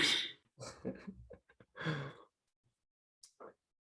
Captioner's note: chuckles